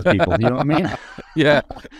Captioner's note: laughing